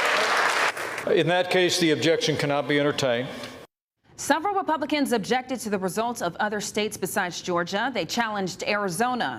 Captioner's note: applause